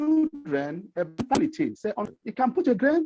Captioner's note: audio cutting out